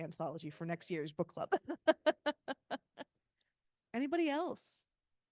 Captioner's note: laughing